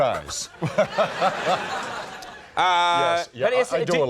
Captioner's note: laughter